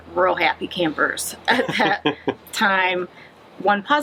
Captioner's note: laughs